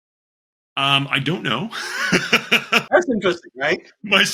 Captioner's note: laughs